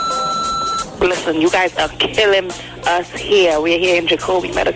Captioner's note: phone rings